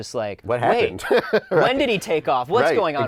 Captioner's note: laughing